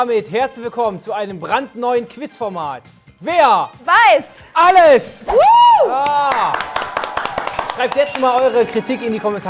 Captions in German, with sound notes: Damit herzlich willkommen zu einem brandneuen Quizformat! (Jubelruf) Schreibt jetzt schon mal eure Kritik in die Kommentare.